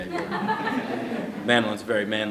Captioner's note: laughter